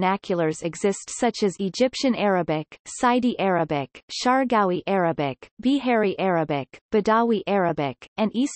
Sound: bedawi Arabic

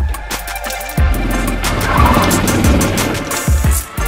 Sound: tires squeal; upbeat music

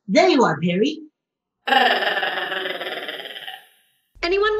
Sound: platypus chatter

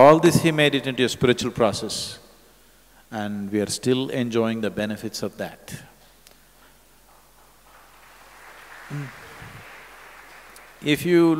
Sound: applause

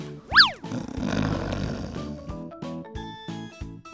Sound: snoring

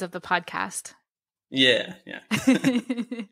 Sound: laughter

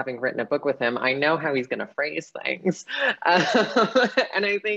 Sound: laughing

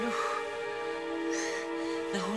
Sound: panting continues

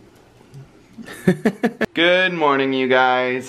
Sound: laughing

